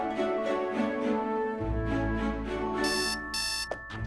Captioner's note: alarm beeps